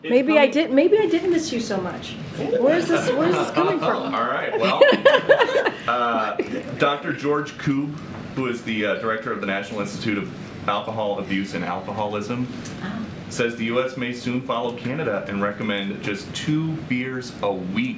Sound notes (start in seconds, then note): 2.5 laughter; 6.3 laughs